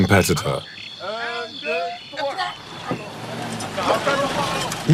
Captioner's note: foreign language